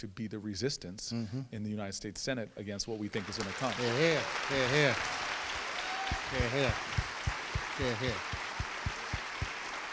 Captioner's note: crowd applauds